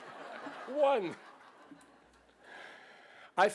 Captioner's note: laughter